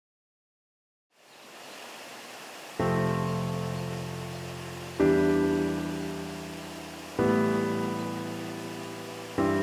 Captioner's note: melancholy, piano music; water hissing